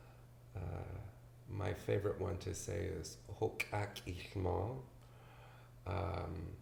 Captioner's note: speaks indigenous language